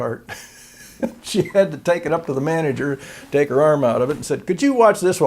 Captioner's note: laughter